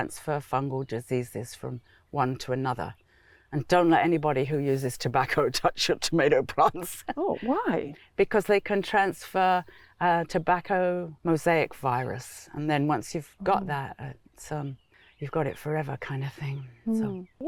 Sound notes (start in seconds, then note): 7.0 laughs